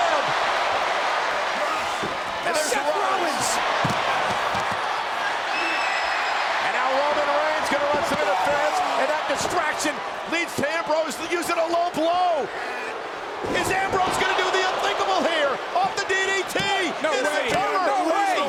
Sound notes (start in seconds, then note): 0.3 audience cheers; 4.3 audience cheers; 12.0 audience jeers